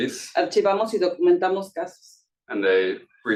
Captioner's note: speaking Spanish